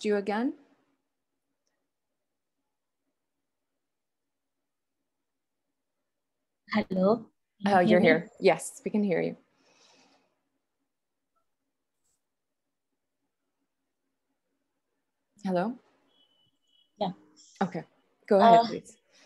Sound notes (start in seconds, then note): 3.4 audio dropped